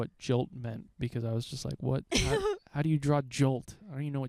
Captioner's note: laughing